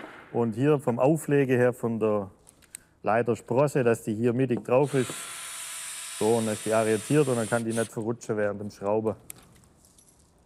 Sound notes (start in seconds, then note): none